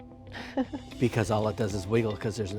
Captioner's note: laughs